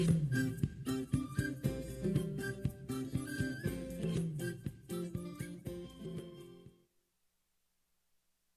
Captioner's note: whistling